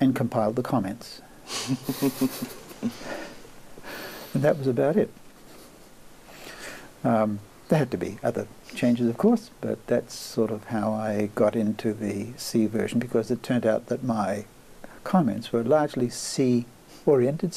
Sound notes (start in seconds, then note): 1.5 laughs